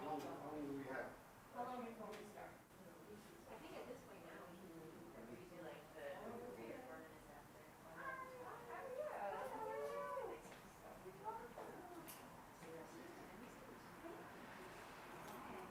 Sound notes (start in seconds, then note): 6.0 participants chattering